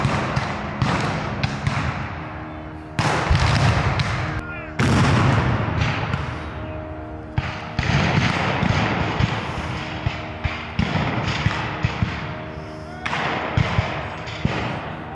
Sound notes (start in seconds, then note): 4.7 cannon fires; 9.0 guns fire